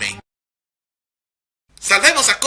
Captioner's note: awkward pause